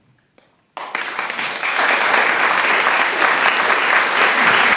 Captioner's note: applause